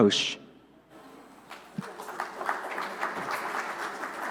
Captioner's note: applause